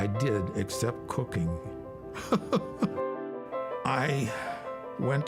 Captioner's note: laughing